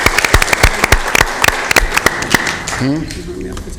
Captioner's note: applause